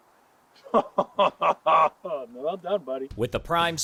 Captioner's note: laughing